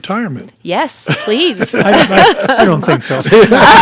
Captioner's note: laughing